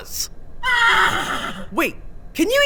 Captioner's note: horse neighs